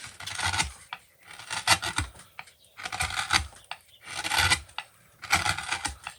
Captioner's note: wood carving sounds